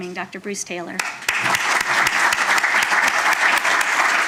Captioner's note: applause